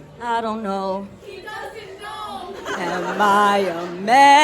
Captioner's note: crowd laughs